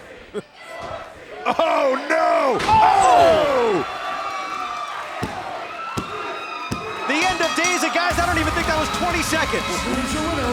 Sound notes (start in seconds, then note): 6.1 cheers & applause; 7.3 bell ringing